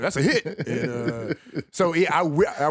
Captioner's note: laughs